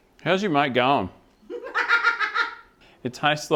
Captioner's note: laughing